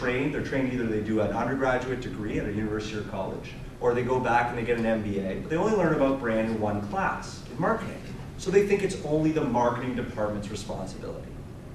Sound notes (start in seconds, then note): none